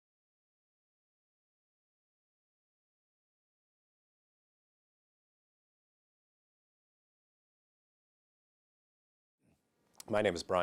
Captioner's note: no audible dialogue